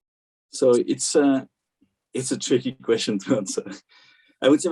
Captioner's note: laughs